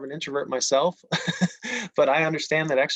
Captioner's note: laughs